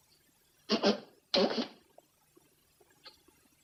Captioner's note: blowing nose